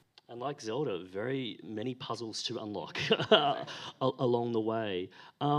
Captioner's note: laughs